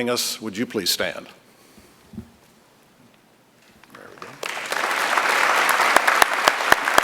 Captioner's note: applause